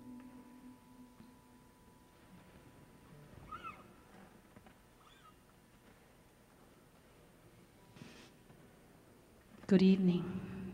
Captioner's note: silence